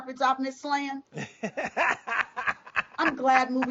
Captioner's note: laughs